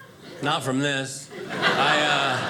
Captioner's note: audience laughing